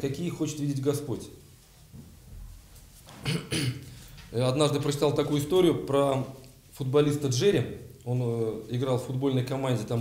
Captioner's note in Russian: откашливается